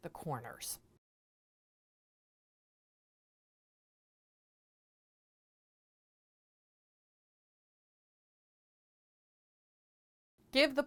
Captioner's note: no Sound Present